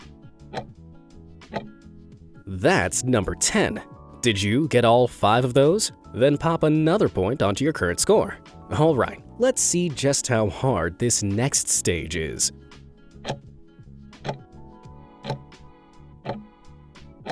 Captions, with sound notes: That's number 10. Did you get all five of those? Then pop another point onto your current score. All right, let's see just how hard this next stage is. (timer ticking)